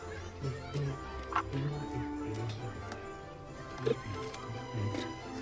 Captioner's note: humming